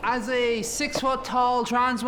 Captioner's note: audience laughs